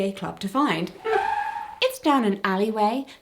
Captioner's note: brake screech